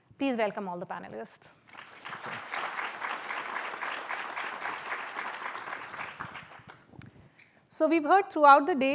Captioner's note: applause